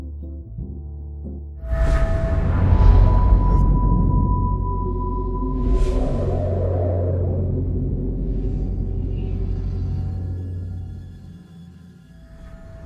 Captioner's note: tonal sweeping sounds